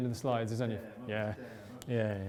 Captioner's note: murmurs